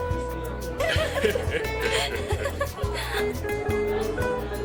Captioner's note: women laughing